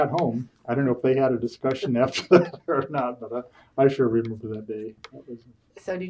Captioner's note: laughs